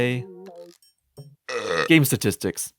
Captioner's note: burp